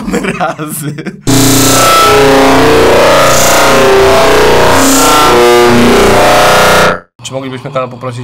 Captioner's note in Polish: śmiech; dźwięki przypominające wiadomość od obcej cywilizacji